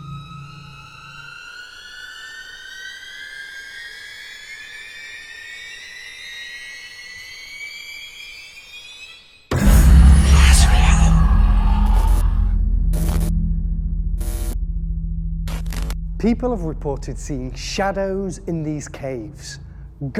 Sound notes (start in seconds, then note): 0.0 eerie music; 9.9 whispering; 12.7 static